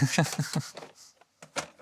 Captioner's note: laughing